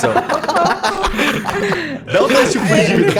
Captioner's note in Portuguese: Todos riem